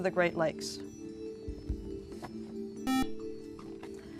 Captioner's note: beep